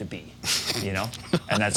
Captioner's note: laughing